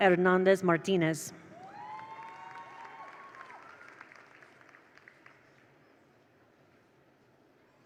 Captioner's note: attendees cheer; attendees applaud